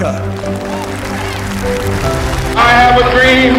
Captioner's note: audience Applause